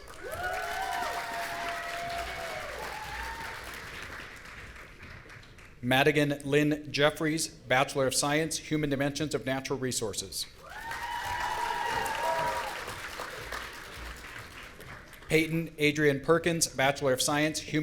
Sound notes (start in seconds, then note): 0.0 audience cheering; 10.6 audience cheering